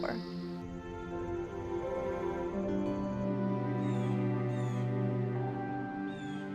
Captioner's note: gentle music continues; bird chirping